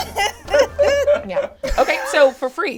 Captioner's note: all laugh